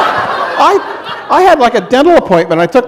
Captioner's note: laughter